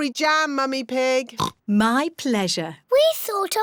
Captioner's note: oinks